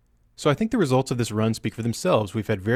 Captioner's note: voiceover